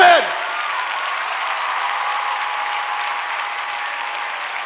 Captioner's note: cheers, applause